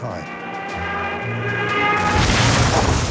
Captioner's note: plane engine roaring; plane thuds